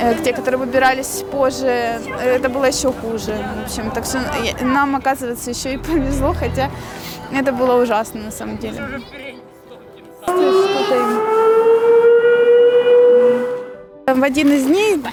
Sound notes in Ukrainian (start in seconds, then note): 10.4 Лунає сирена